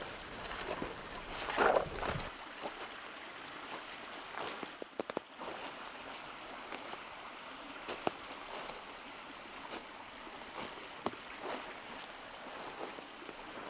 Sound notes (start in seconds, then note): 2.4 leaves rustling; 2.4 water babbling